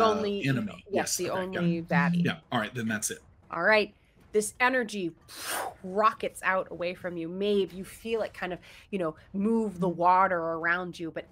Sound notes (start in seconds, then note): 4.9 mimics whoosh